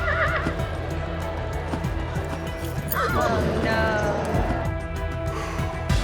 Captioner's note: neighing loudly; sighs